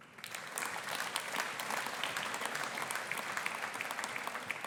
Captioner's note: audience applauding